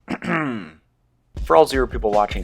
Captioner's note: ahem